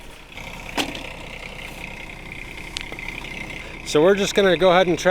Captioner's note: engine roaring